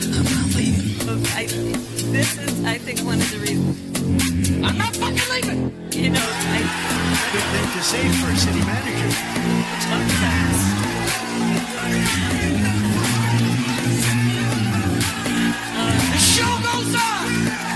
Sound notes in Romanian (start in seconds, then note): 9.6 Aplauze; 16.9 Aplauze